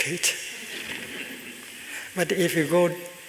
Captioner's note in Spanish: Risas